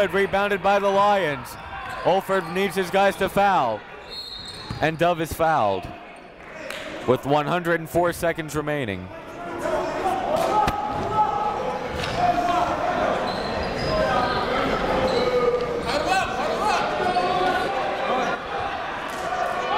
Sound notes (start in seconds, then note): 9.1 coaches yelling; 10.0 crowd talking